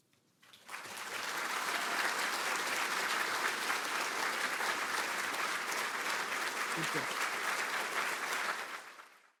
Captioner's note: applause